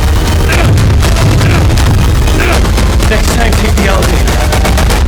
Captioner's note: intense music; Martin grunting